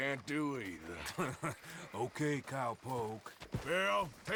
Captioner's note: laugh